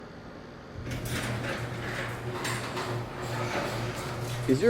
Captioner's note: door squeaks